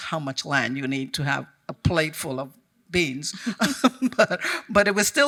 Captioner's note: chuckles